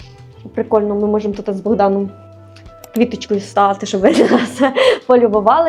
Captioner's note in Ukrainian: сміх